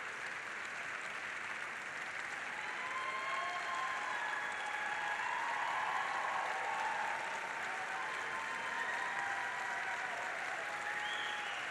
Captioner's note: applause